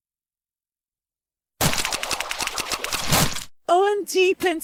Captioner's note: licking noises